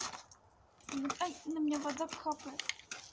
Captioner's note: water dripping from above